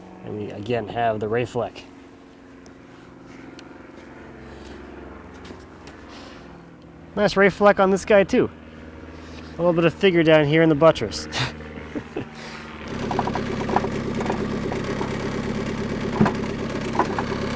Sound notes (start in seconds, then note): 3.5 aircraft whirring; 11.2 laughs; 12.1 skid-steer whirring